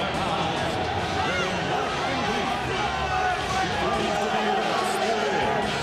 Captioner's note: audience clamoring